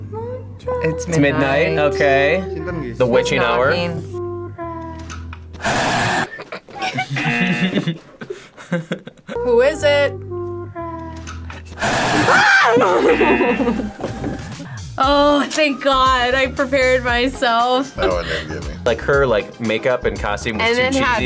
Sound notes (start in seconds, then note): 5.5 video roars; 6.2 laughs; 6.8 whimpers; 11.8 video roars; 12.1 screams; 12.1 both laugh; 13.2 buzzer rings